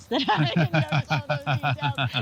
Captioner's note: both laughing